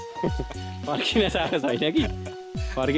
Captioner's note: laughter